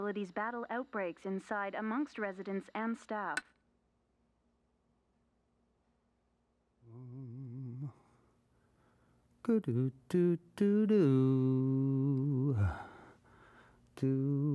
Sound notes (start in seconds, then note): 6.8 humming